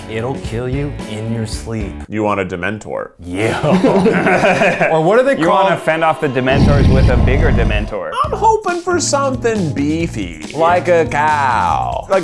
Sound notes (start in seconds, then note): 3.6 laughing